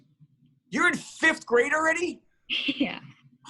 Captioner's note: chuckling